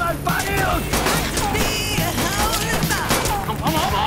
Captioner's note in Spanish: Disparos